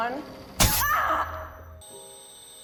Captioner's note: staple gun goes off; June screams; June's ears ring